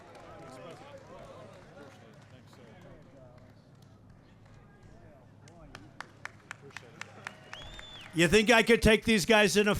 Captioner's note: applause